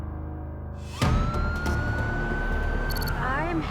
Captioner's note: siren wailing